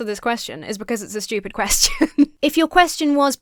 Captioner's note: laughs